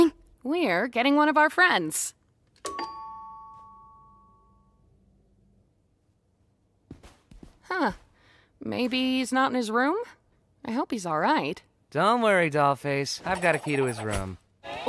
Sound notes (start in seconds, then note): 2.6 doorbell rings